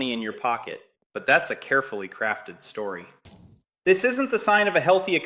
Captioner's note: sarcastic